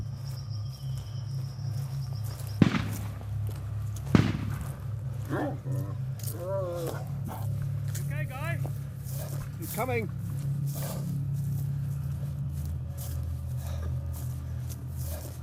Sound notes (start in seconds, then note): 4.0 rifle blasting; 5.1 animal groaning; 11.0 grass crunching